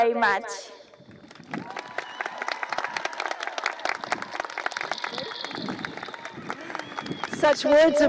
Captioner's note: cheering and applause